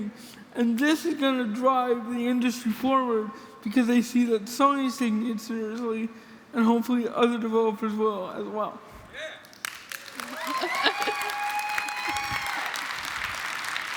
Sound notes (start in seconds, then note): 9.5 audience applauding; 10.2 chuckles